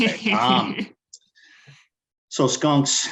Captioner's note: laughing